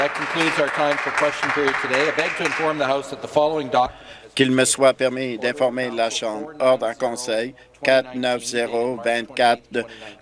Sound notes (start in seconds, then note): 2.5 applause